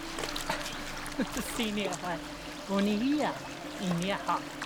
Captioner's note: speaking Algonquian